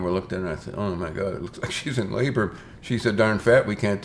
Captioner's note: chuckles